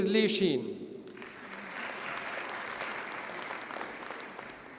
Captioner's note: audience applauds